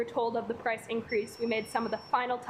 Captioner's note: alarm beeping